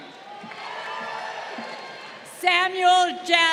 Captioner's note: crowd cheering